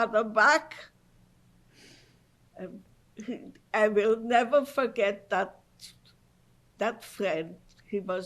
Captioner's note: pauses for 3 seconds